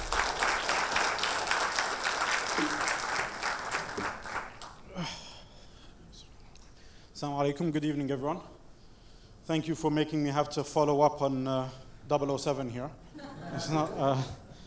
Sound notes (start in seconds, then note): 0.0 audience applause; 7.7 foreign language; 13.2 audience laughter